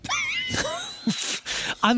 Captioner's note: laughing